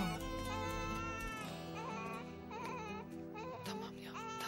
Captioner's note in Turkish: bebek ağlama sesi̇